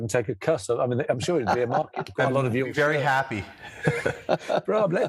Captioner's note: laughs